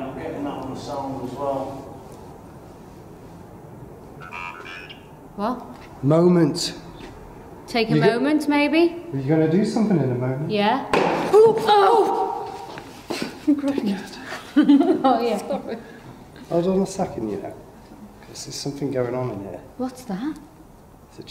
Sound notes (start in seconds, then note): 11.4 bangs and exclaiming